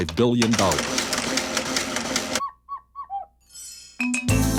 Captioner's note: adding machine clicking; upbeat music